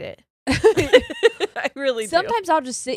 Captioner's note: both giggles